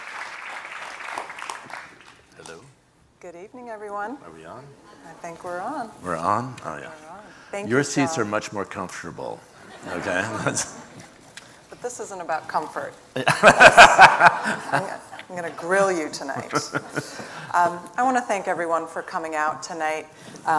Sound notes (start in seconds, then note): 13.2 laughing